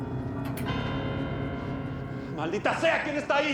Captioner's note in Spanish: Suena elevador